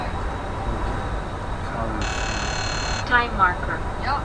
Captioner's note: alarm